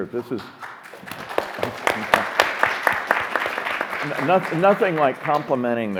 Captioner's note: group clapping